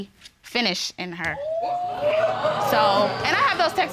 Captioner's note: audience exclaiming